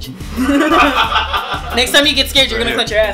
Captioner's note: static and laugh; laughs